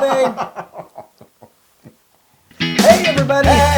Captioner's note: laugh